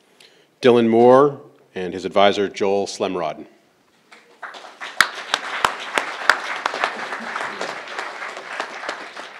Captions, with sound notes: - Dylan Moore and his advisor Joel Slemrod. (crowd applauding)